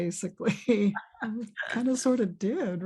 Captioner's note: chuckles